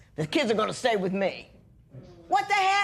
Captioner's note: gruffly